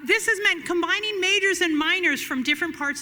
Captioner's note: none